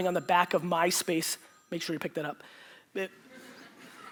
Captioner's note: phone ringing; audience laughter